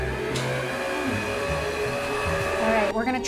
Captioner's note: mixer whirring